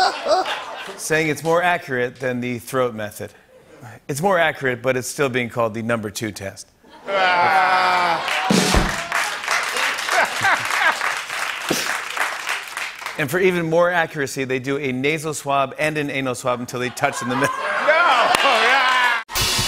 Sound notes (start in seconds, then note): 0.0 laughter; 7.0 laughter and applause; 8.4 drums play